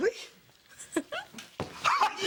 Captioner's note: chuckles